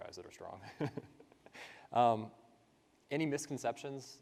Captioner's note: laughs